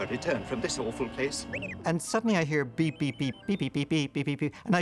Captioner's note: beep Beep Whistle